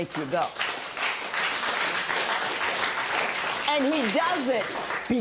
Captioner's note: applause